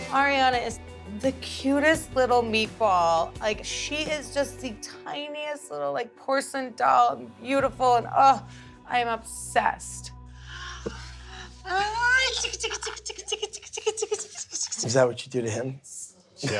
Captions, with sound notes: Ariana is the cutest little meatball. Like, she is just the tiniest little porcelain doll. Beautiful and, uh, I'm obsessed. (makes tickling sounds) - Is that what you do to him?